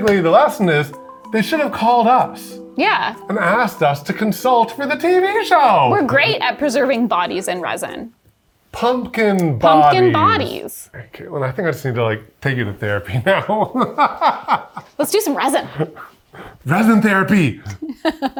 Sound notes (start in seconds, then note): 13.2 laughs